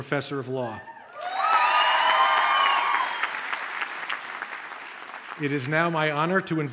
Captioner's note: audience cheers and applauds